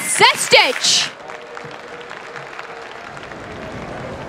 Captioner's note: applause